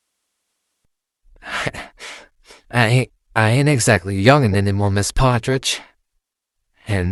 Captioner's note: laughs sadly